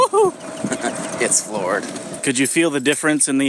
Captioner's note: chuckles